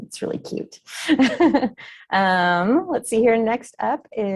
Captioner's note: chuckles